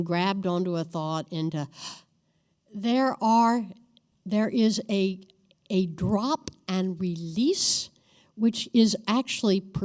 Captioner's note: gasp